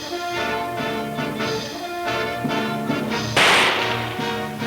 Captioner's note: gun firing